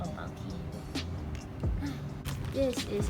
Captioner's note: sighs